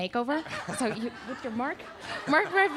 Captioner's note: audience laughing